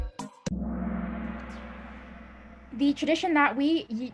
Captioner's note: gong